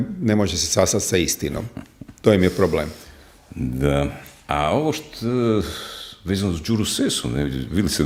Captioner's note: sigh